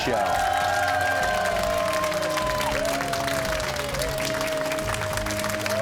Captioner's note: cheers and applause